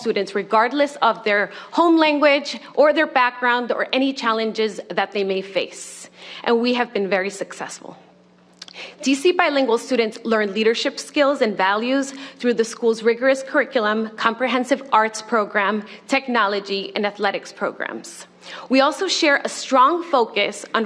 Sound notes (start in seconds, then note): none